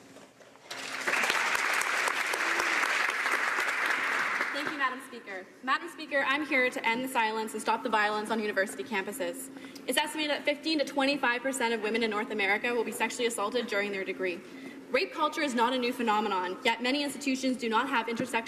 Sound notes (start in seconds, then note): 4.2 applause